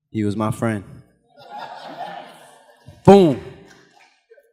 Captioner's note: audience laughing